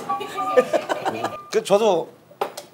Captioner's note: laughing